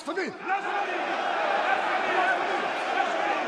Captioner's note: people shouting